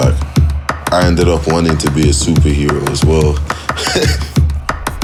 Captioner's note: laughs